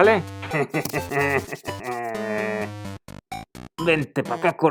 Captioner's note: laughs